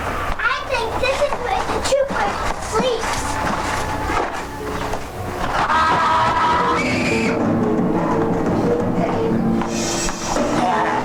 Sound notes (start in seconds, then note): 0.0 footsteps tapping; 5.9 Daniel screaming; 8.1 dramatic music